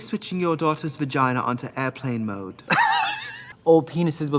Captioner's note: Katya laughs